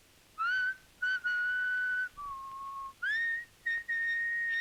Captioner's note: Lucky whistling